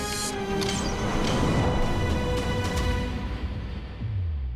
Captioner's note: arrow whistles, strikes; bass throbs